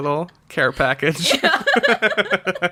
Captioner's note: laughs